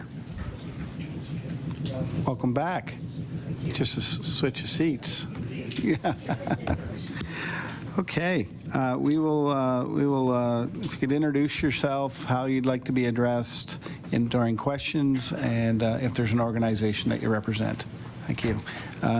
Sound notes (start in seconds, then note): 7.3 laughter